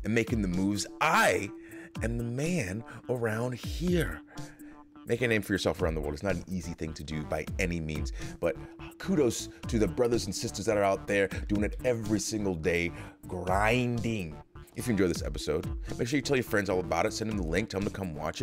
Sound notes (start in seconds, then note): none